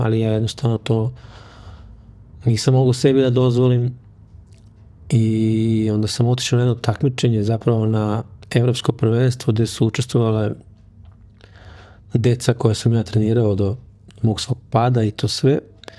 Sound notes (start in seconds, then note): none